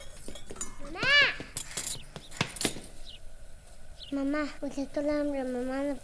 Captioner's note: boy speaking in a foreign language